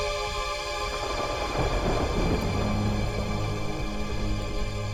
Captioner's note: thunder rumbling